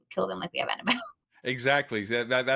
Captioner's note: laughing